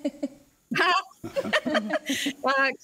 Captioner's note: laughs